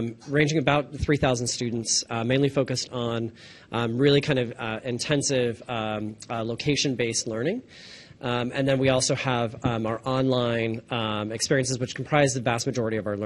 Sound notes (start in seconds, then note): none